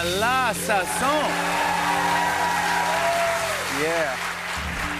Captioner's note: cheers and applause